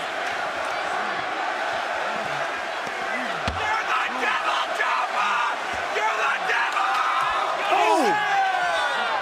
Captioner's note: crowd chatter